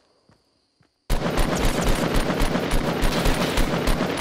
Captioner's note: gunfire